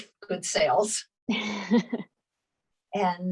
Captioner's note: laughs